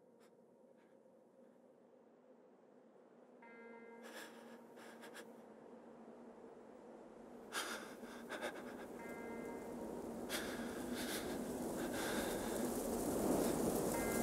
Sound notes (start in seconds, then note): 10.2 heavy breathing; 12.4 wind